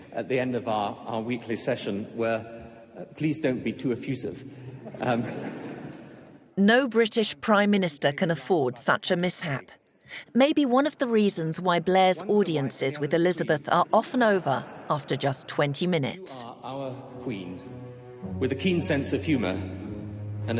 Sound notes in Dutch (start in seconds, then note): 4.9 publiek lacht